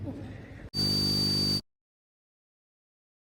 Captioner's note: high-pitched buzzing